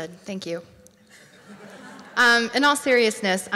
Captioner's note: audience laughs